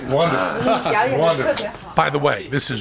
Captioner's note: non-english speech